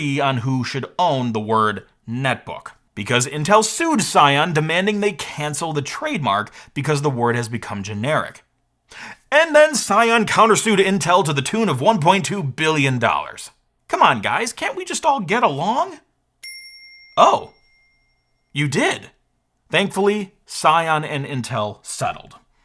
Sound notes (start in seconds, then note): 16.4 bell dings